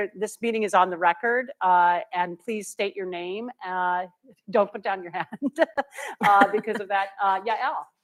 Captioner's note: laughter